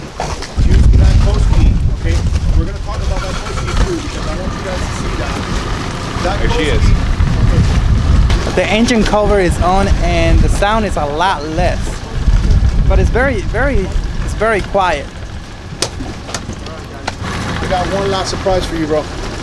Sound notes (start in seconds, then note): 5.7 engine cranking; 5.7 engine humming; 17.4 engine growling